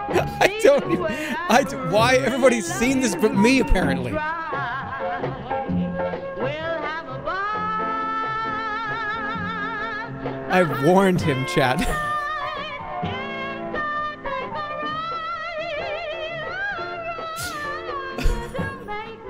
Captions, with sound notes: [laughing] I don't even—I—why— everybody's seen this but me, apparently! "I warned him, chat!" [laughs] [laughs]